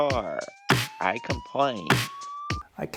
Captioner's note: sirens